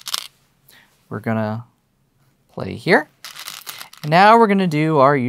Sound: stones rattling; stones rattling

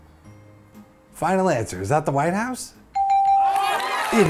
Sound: bell rings / audience applauds

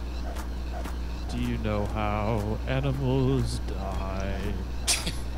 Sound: bips singing

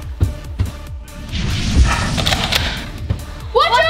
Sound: light dramatic music; whooshing

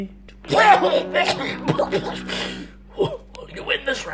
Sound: vomits

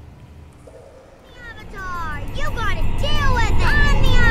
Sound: ominous trembling grows louder and louder

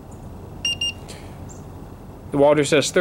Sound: thermometer beeps

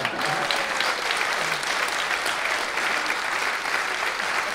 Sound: audience applauding

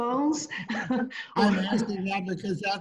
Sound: laughs

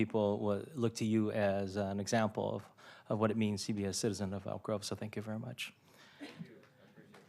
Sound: applause

